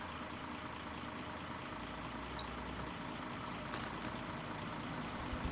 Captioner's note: small engine operating